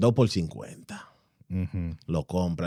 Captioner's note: speaking In Foreign Language